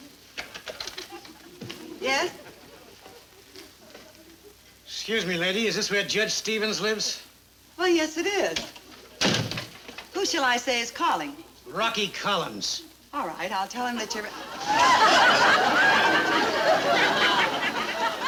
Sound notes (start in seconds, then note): 9.2 door closes; 14.0 audience laughing loudly